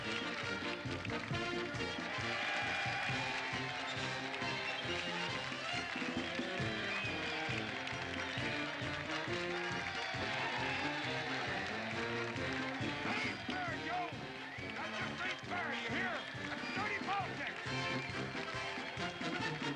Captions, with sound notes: ( cheering ) THAT AIN'T FAIR, JOE! THAT JUST AIN'T FAIR, DO YOU HEAR? THAT'S DIRTY POLITICS.